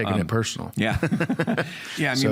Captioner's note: laughter